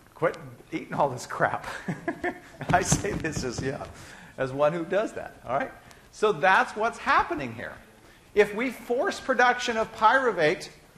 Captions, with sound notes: Quit eating all this crap. [laughing] I say this as one who does that. So that's what's happening here. If we force production of pyruvate,